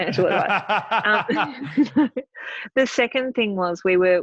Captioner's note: laughing